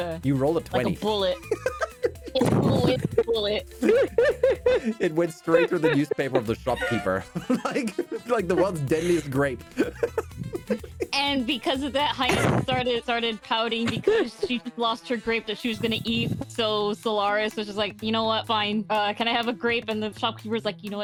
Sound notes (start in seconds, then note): 1.2 laughter